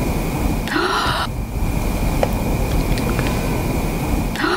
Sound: gasping

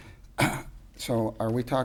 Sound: coughs

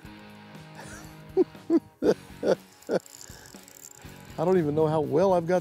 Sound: chuckles

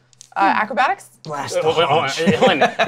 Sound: laughs; stammers

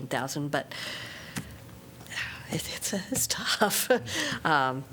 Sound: laughter

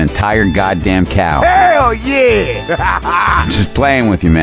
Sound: laugh

